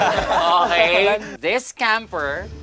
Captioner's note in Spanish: campistas riendo